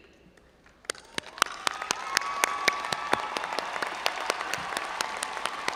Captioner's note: audience applauding and cheering